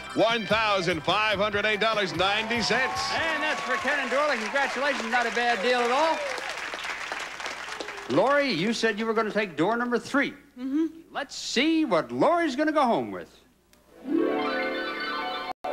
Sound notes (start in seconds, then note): 1.4 audience applauding